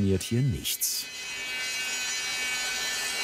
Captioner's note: sounds of sawing